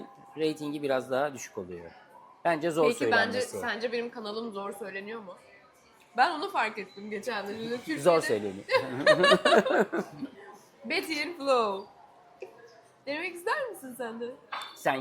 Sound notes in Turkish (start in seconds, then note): 8.7 kahkaha